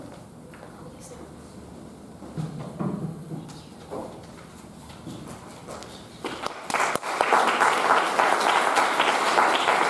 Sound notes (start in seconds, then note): 1.4 attendees chattering; 6.3 audience applauding